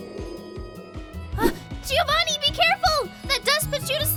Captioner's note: gasp!